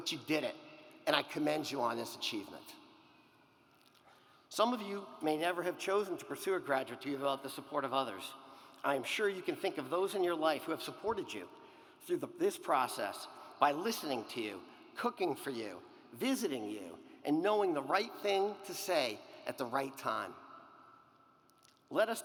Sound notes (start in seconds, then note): none